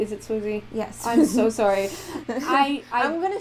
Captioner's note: laughter